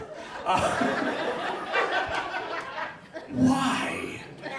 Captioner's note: audience laughs